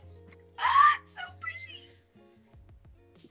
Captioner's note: squeals